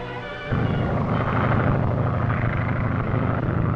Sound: engine droning

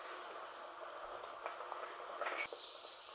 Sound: drizzling

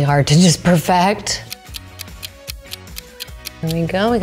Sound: clock ticking

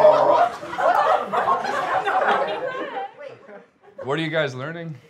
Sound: class cheering

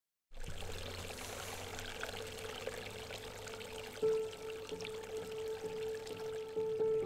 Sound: water rippling

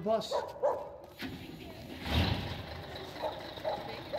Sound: bus engine

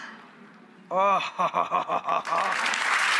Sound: groans; audience applauds

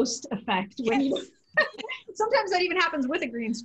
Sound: laughter

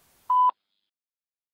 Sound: beep

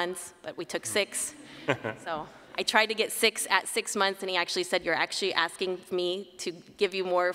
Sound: laughter

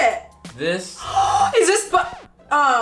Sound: gasps; record scratch

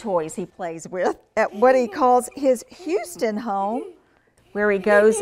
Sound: laugh

